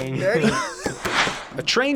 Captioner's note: laughs